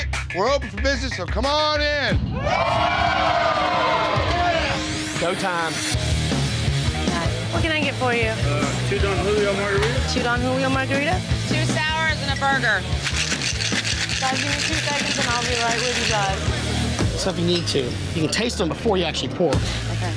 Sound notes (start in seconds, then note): 2.3 patrons cheering; 6.4 dramatic music; 13.0 ice shaking